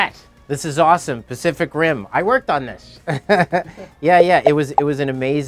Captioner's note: laughs